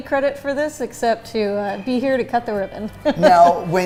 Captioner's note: laughs